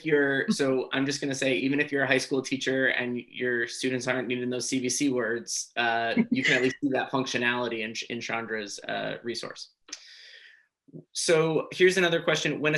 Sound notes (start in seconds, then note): 5.9 chuckles